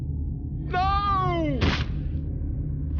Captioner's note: splat